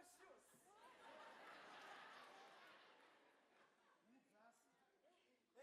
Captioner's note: audience laugh